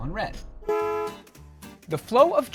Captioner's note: car horn honking